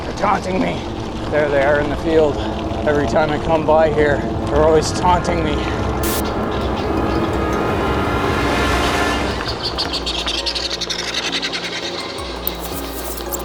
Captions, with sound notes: They're taunting me! There they are in the field! Every time I come by here, they're always taunting me! [static] [suspenseful music] [turkeys gobbling]